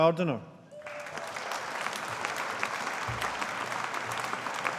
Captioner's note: audience applauding